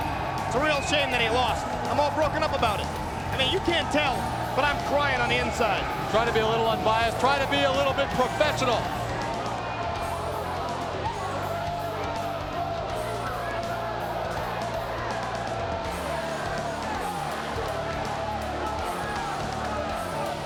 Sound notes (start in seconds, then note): 9.6 audience cheering; 9.6 upbeat music continues